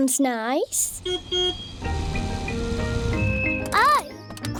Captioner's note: car horn beeps